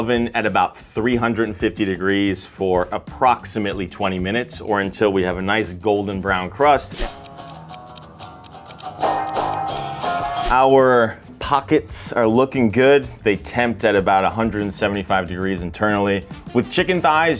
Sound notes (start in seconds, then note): 6.8 upbeat music; 7.0 clock ticking